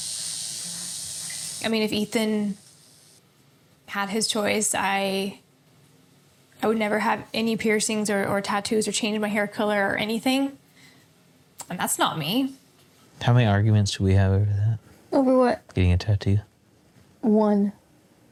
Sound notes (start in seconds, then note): none